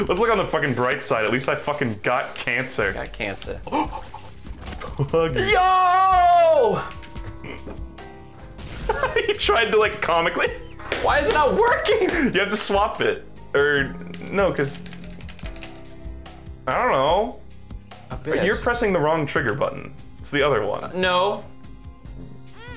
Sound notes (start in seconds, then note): 4.0 gasping; 8.9 laughing; 10.9 clapping